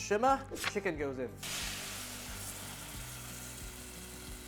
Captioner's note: sizzling sound